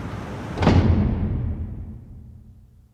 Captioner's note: door slams